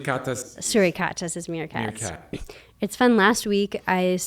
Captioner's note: foreign language